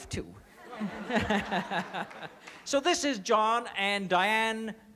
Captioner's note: laughs